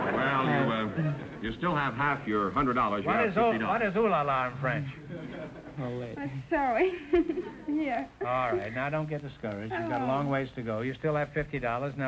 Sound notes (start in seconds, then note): 7.5 laughing